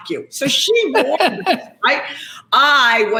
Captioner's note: Gary laughs